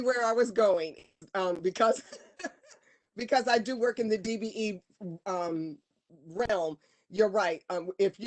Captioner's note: laughter